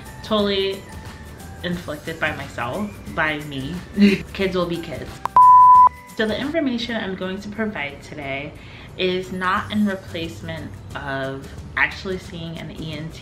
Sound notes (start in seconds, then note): 3.6 laughs; 5.2 beep